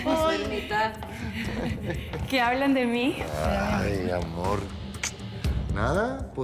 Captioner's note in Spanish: risas